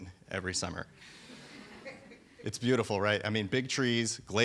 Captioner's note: audience laughing